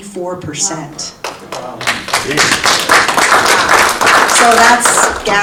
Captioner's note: audience applauding